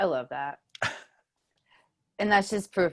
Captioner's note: chuckles